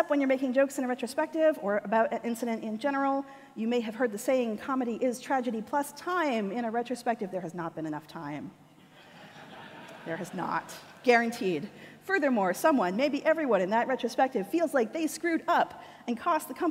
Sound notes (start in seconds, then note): 8.8 audience laughter